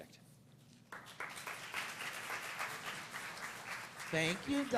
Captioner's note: applause